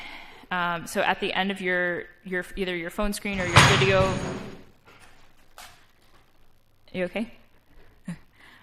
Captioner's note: loud_bang